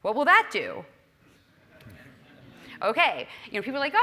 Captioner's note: laugh